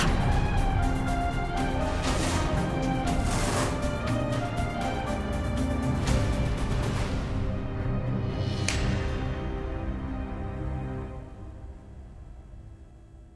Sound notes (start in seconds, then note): 0.2 tense music playing; 8.6 snapping finger